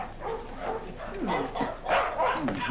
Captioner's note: dogs barking